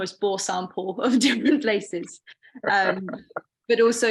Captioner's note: laughing